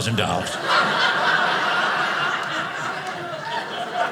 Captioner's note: audience laughing